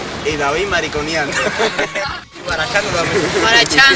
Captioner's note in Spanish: risas